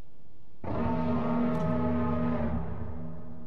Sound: light dragon roars

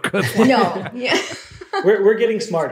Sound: laughter

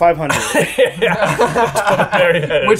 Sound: laughs

